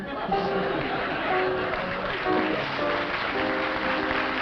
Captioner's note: applause